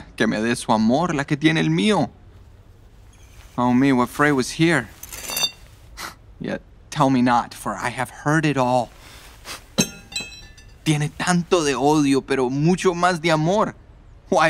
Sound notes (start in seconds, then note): 4.9 weapon scraping on ground